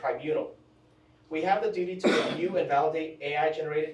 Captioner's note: attendee coughs